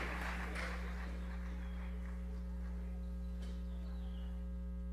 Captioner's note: microphone hums